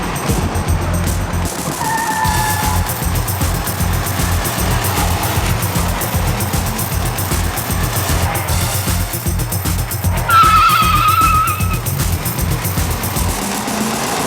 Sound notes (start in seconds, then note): 1.9 tires screeching; 9.4 tires screeching